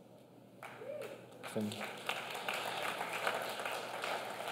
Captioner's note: clapping